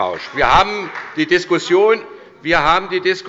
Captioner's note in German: Beifall bei der SPD